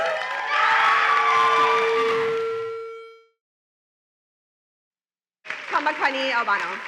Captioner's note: cheering and applause, feedback